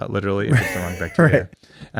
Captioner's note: laughs